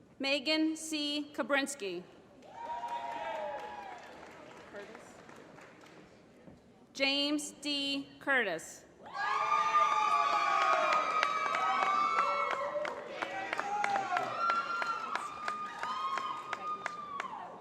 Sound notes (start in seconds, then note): 2.4 applause; 9.8 applause